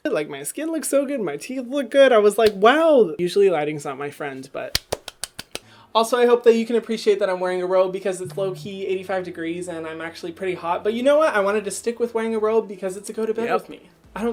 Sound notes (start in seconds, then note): 4.7 clapping